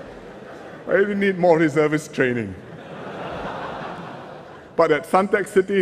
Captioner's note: laughter; laughter